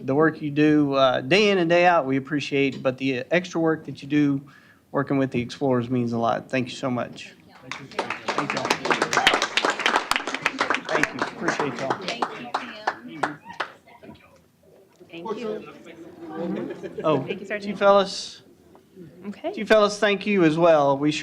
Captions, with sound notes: The work you do day in and day out, we appreciate, but the extra work that you do working with the Explorers means a lot. Thank you so much. [APPLAUSE]. Thank you. Appreciate y'all. >> Thank you. Thank you. >> Oh. To you fellas --. >> Okay. >> -- to you fellas, thank you as well.